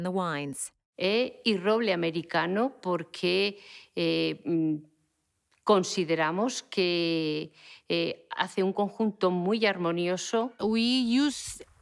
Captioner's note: speaking Spanish